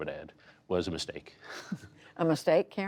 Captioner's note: laughter